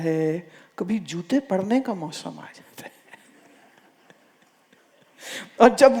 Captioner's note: laughs